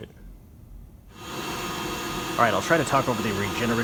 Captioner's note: blower whining